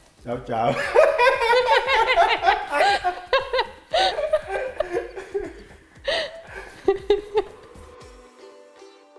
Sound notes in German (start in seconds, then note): 0.7 Beide sind am lachen :D